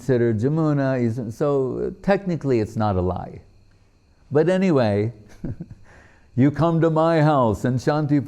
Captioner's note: laughing